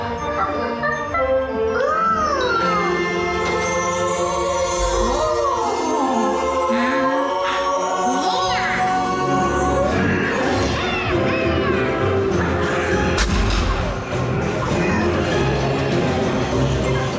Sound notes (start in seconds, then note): 0.2 monkey humming; 9.9 monkey shouting; 12.8 cannon booms; 14.1 lively music playing